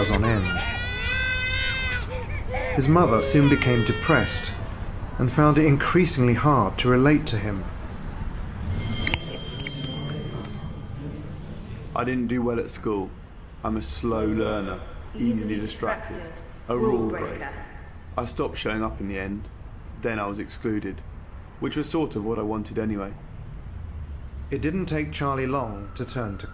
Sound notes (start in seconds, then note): 0.0 baby Crying; 8.6 school Bell Ringing